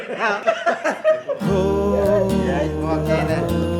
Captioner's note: laughter of happiness